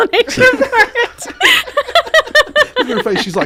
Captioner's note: laughing